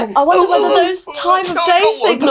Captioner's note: squeals